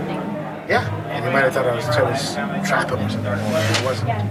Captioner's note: rubbing head, mutters